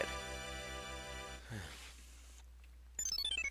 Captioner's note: breathing